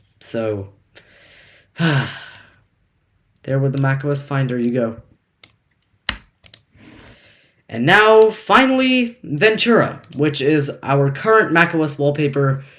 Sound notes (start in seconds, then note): 1.1 sigh